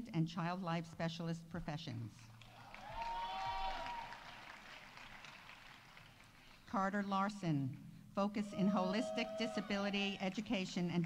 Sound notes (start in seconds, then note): 2.4 audience applauding; 2.6 audience cheering